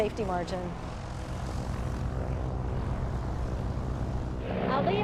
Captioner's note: plane passing